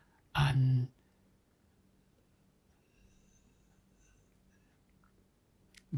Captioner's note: pauses 4 seconds